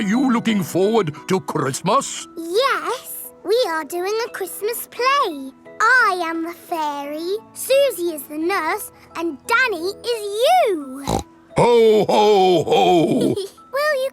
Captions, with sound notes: Are you looking forward to Christmas? Yes, we are doing a Christmas play! I am the fairy, Suzy is the nurse, and Danny is you! (SNORTS) -Ho! Ho! Ho! -(GIGGLES)